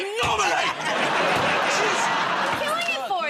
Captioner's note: laughter